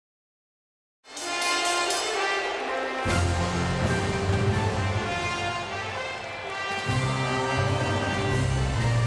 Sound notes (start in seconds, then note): 1.2 intense majestic music; 1.6 bell rings; 5.3 majestic music continues